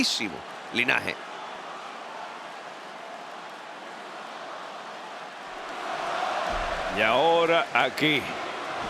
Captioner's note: applause